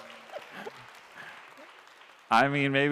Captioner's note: applause